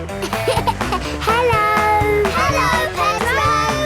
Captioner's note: laughing